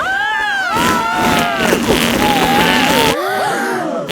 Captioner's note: both screaming; crowd gasps